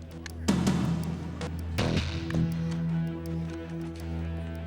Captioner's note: suspenseful music; scissors snipping